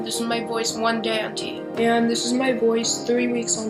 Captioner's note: lower voice